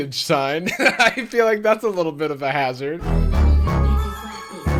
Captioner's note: laughs